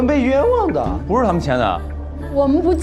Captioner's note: cracked voice